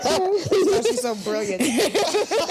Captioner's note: Vernee laughs; laughs; both laughing